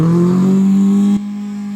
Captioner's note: engine revving